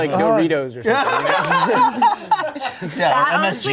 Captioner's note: laughing